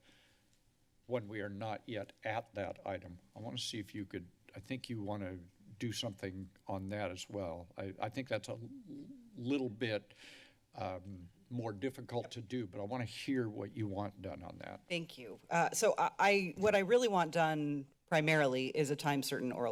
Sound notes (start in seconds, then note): 10.1 inhales